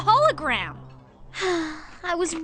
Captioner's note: sigh